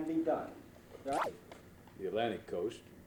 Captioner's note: camera noise